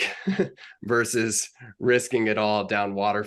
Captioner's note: chuckles